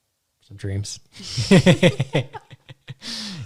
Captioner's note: laughing